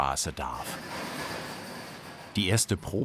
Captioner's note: rustling whirring